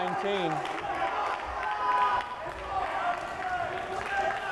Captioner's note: crowd cheering